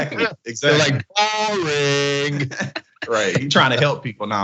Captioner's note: laugh